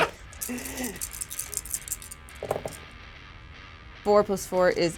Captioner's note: dice rattle